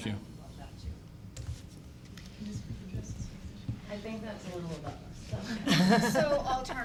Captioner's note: background talking